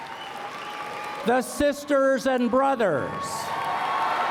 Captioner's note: cheering